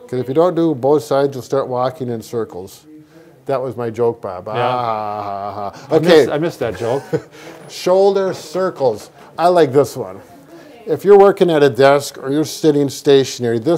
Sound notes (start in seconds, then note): 7.2 laughing